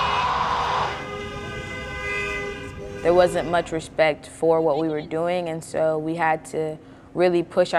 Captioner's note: screaming; car horn